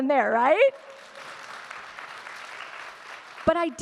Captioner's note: audience clapping